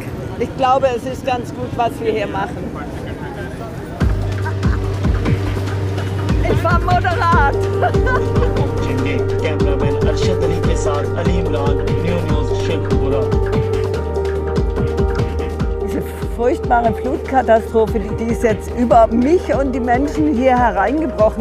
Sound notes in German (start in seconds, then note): 3.8 Motivierte Musik; 8.1 Nachrichtensprecher im Hintergrund